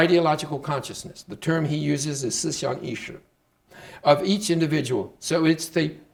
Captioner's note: speaking Chinese